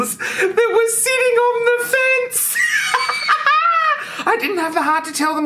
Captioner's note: laughs